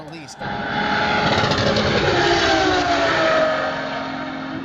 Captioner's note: engine whirring